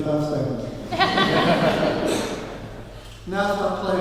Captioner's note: laughing